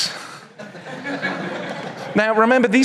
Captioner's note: audience chuckles